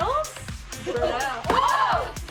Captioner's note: girls exclaim